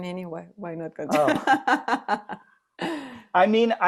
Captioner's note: laughs